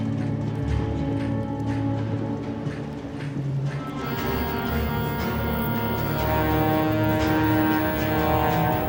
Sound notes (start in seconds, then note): 4.4 can spraying